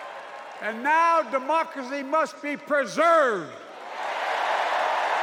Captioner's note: cheers and applause